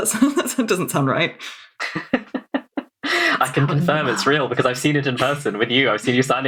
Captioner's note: laughing